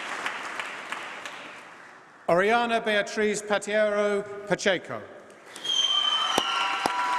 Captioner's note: applause